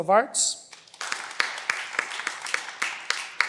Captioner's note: cheering